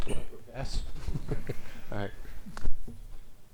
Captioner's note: chuckles